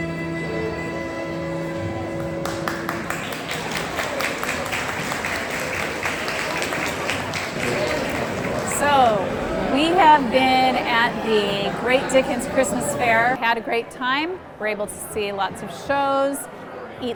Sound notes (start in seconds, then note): 2.4 applause